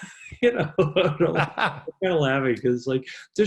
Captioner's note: both laughing; laughs